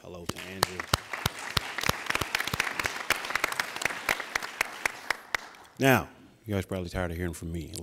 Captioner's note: applauding